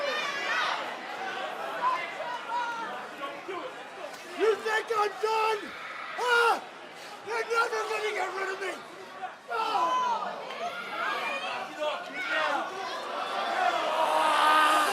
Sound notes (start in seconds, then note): 9.8 crowd chatter; 13.1 crowd cheering